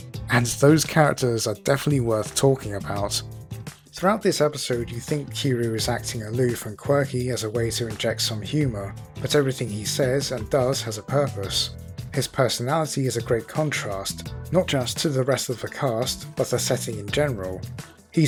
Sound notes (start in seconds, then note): none